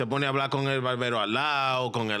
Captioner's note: speaking In Foreign Language